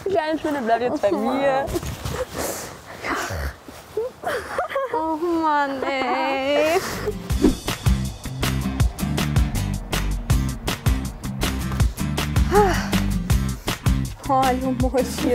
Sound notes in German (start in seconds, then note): 7.2 Beschwingte Musik; 12.0 Seufzen